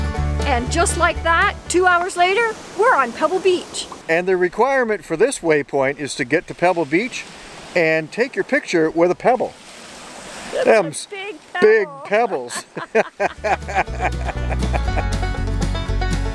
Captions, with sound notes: -And just like that, two hours later, we're on Pebble Beach. -And the requirement for this waypoint is to get to Pebble Beach and take your picture with a pebble. -Thems big pebbles. -Thems big pebbles. [laughing]